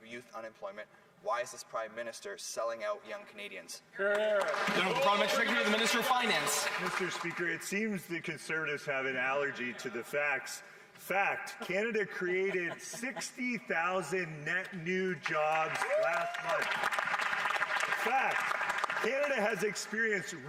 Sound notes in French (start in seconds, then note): 12.4 voix de l'interprète